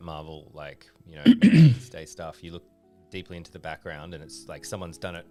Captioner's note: clears throat; cough